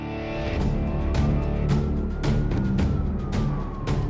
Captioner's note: police siren